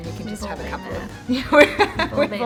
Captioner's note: laughing